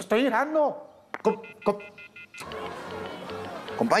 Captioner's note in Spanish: Tono telefónico